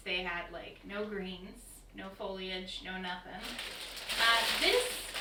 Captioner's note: crinkling